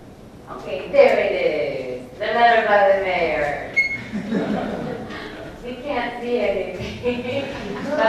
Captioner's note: laughs